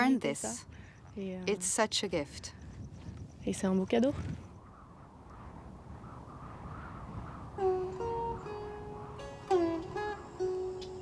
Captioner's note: speaking french